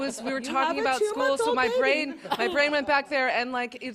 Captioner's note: laughter